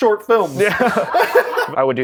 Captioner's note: laughter